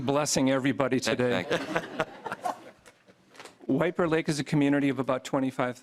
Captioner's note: laughter